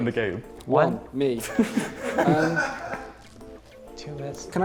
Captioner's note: laughter